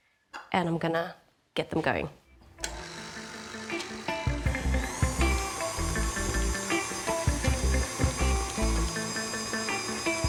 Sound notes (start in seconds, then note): 3.5 mixer whirring